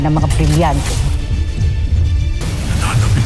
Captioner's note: weapons swoosh; sparkling whoosh